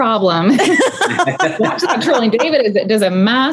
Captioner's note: all laughing